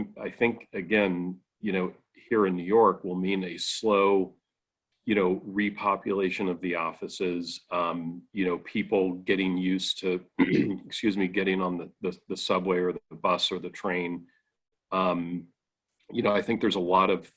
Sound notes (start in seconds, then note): 10.3 clearing throat